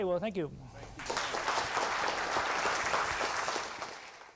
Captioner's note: applause